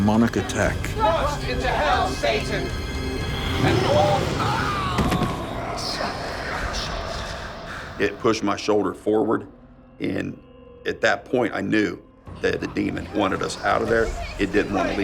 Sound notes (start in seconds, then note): 3.6 screams; 4.9 thumping